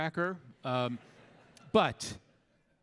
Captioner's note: audience laughing